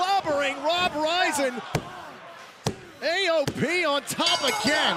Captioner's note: bell